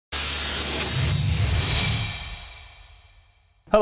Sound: static buzzing

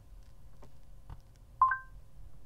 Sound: chime sound from the stereo

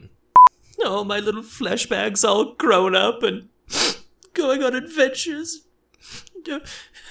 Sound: sniffle

